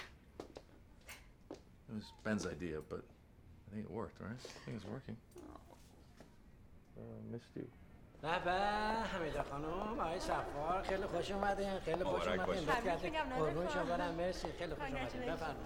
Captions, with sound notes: It is working. ( Foreign language )